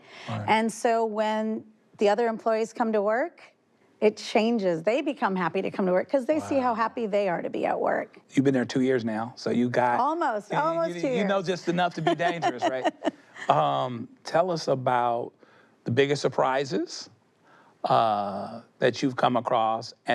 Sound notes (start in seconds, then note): 13.3 she laughs